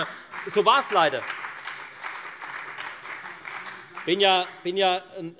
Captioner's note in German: Beifall bei der FDP und bei Abgeordneten der SPD